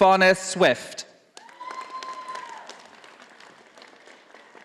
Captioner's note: audience applauding